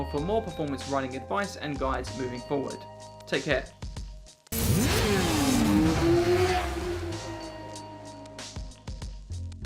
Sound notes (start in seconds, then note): 4.5 motorcycle engine revs loudly